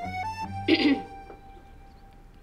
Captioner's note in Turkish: Mozi boğazını temizledi